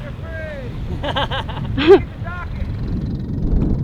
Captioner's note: laughing